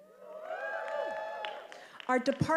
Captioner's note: attendees cheering